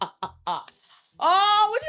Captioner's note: laughing